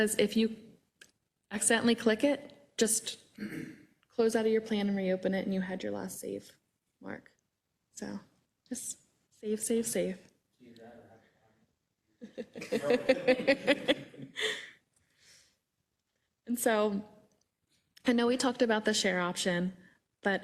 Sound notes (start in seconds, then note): 12.2 laugh